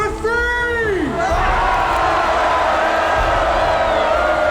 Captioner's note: crowd cheering